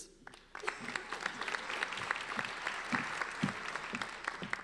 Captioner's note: applauding